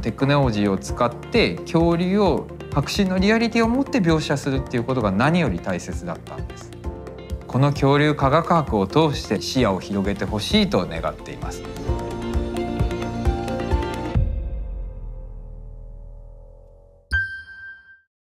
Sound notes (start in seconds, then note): 11.4 bright music; 17.1 reverberating tone